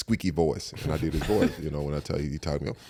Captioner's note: all laugh